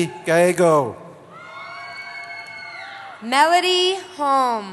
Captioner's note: cheering; cheering